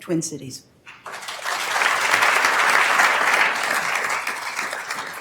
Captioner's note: attendees applauding